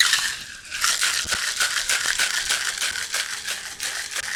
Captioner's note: ice rattling